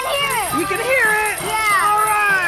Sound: bell ringing

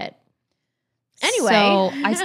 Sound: laughs

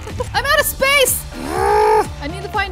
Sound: grunts

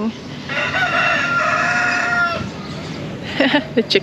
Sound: chickens clucking

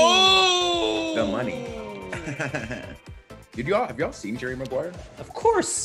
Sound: laugh

